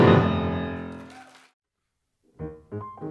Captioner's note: audience applauding